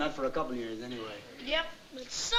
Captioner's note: none